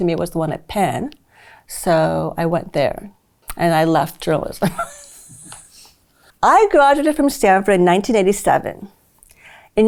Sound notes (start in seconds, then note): 4.7 laughs